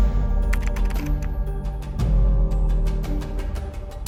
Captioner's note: keys clicking